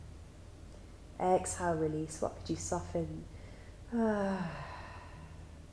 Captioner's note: exhales